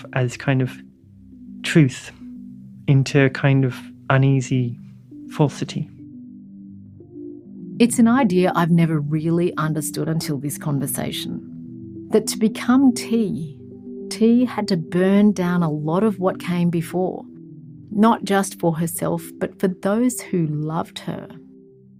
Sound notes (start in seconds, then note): 6.1 voiceover